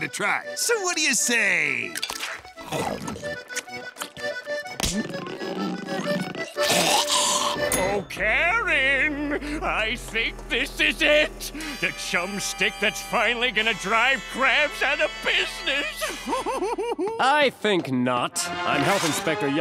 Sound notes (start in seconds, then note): 15.9 laughing